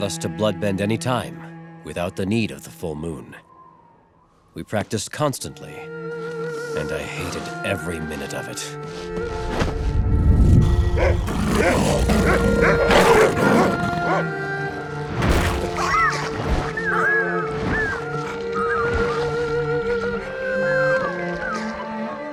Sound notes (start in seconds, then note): 10.4 growling; 15.2 whimpering